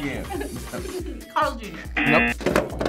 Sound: laughing; buzzer blares

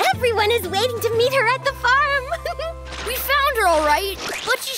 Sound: gasps

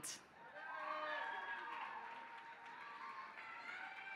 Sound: applause

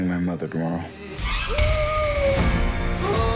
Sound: beau wailing

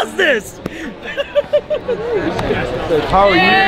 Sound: man laughing

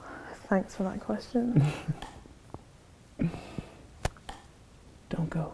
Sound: chuckles

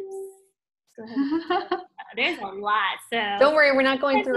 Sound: laughs

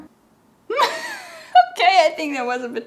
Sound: laughing

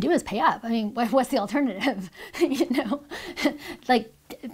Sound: laughs

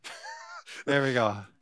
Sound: chuckling

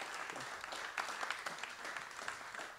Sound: applause

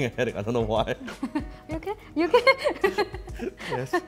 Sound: laughs

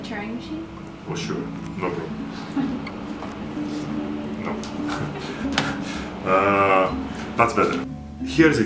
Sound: laughs

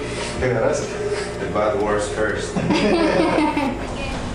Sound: laughter

